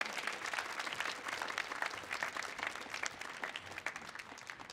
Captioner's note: audience applauding